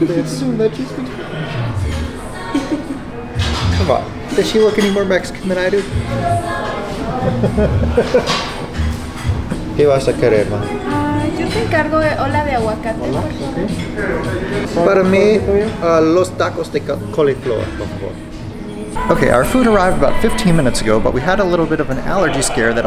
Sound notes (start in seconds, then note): 2.4 laughs; 7.0 laughs